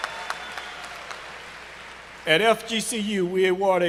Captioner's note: cheers and applause